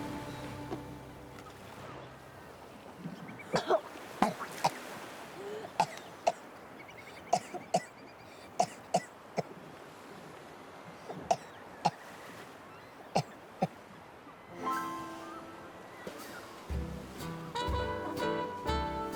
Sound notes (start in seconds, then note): 0.0 seagulls caw; 0.2 waves crash in distance; 3.5 Rene coughs; 14.6 gentle upbeat jazzy music